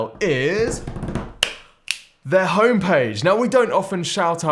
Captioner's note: hands drumming